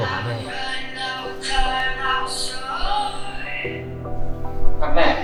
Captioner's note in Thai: เสียงโทรศัพท์ดัง